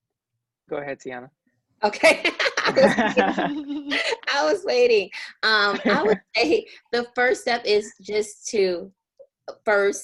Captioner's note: laughter